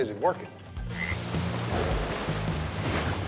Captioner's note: frog croaking